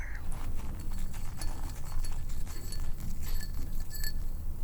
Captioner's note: stirring in glass